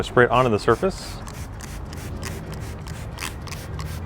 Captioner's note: spraying